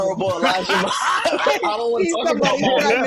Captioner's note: laughing